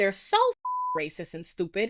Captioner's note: beep